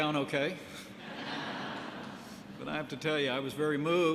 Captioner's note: laughter